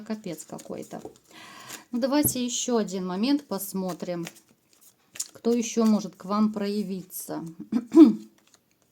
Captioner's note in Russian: откашливается